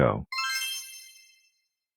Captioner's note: magic spell sound plays